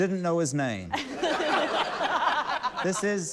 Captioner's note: laughter